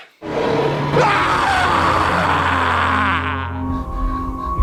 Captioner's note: unholy roar; parental scream